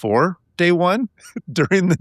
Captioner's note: laughing